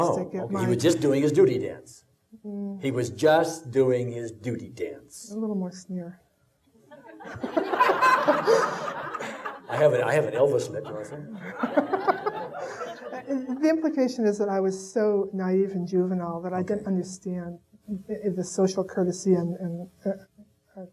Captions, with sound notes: - Oh, okay, he was just doing his duty dance. - Mm. - He was just doing his duty dance. - A little more sneer. (audience laughing) - I have an Elvis lip, you want some? (laughing) - The implication is that I was so naive and juvenile that I didn't understand the social curtesy.